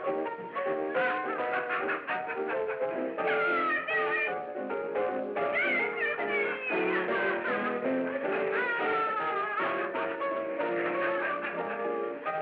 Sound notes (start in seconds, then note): 0.0 laughing; 0.3 merry piano music; 0.7 laughing; 7.2 laughing